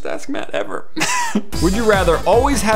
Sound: laugh

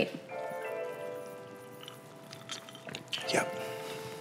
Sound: ice clinking

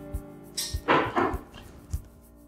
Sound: knock

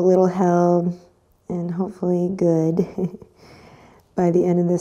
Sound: chuckles

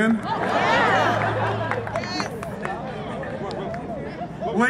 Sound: audience laughs

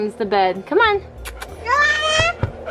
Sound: kissing

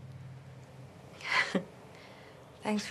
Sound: Kalani chuckles

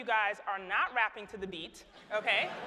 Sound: laughter

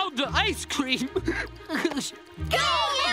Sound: crying

